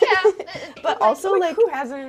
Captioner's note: both laughing